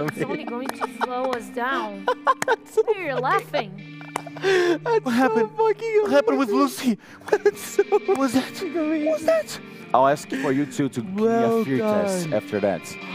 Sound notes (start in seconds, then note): 7.5 laughs